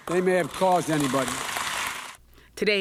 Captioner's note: applause